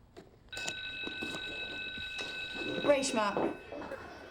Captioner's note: scoffs; bell rings